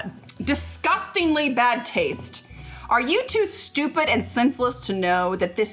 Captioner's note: none